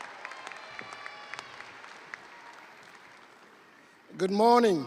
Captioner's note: audience cheering; audience applauding